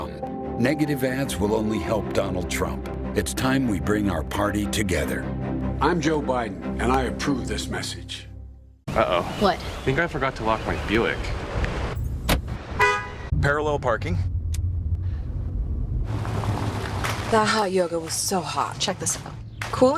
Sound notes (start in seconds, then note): 11.2 doors Lock - Horn beeps